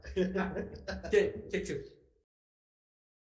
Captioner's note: both chuckling